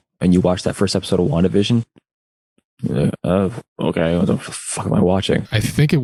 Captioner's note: confused sounds